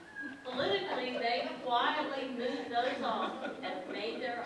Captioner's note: laughter in background